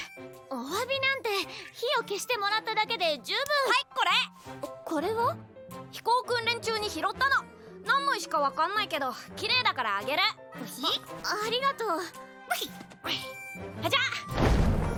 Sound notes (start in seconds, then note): none